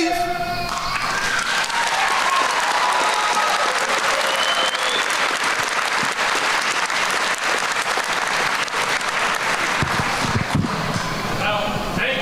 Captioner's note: applause